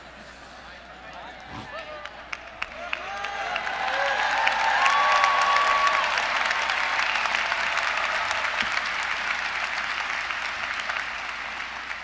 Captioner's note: applause